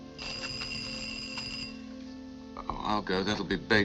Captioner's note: bell ringing